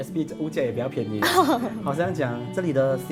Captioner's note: laughs